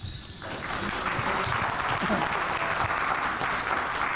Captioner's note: audience clapping